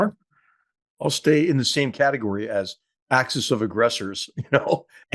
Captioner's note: laugh